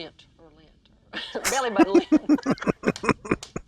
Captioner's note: laughing